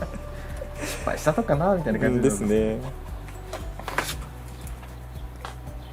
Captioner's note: laughs